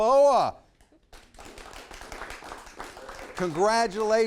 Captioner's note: everyone applauding